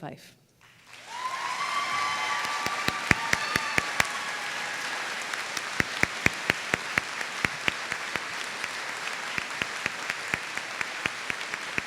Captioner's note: applause